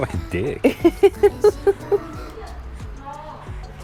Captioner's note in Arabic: تضحك في الخلفية